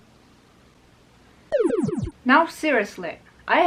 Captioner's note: PAC-MAN sound